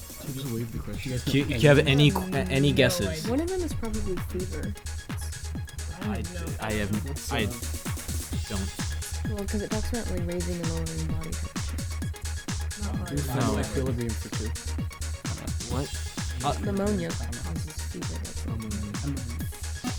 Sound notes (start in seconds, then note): 1.3 whispering